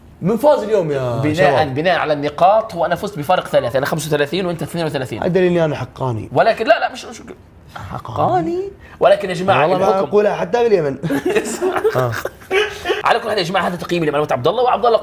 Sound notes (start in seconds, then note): 11.0 laughter